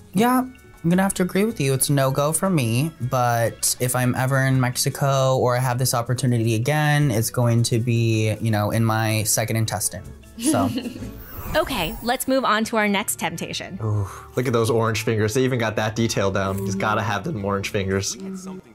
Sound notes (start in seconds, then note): 10.4 laughs